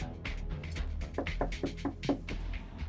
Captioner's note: knock on door